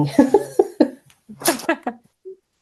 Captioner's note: laughter